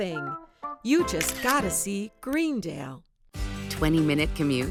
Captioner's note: camera clicking